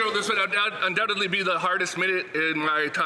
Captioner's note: some Applause